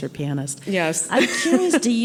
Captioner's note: laughs